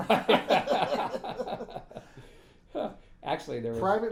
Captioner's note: laughing